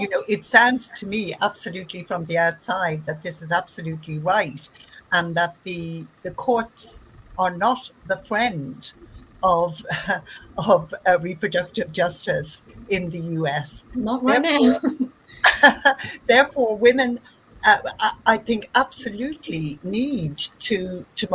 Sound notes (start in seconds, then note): 15.2 laugh; 15.2 laughs